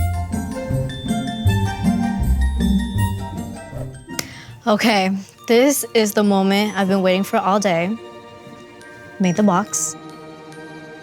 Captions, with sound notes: (tranquil music) (claps) Okay. This is the moment I've been waiting for all day. Made the box,